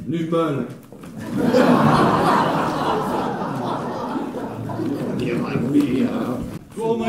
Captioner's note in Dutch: publiek lacht